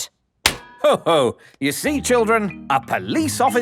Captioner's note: slaps